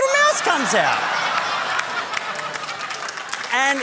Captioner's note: laughter, applause